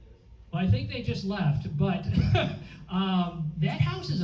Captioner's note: laughs